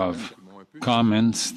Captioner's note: speaking French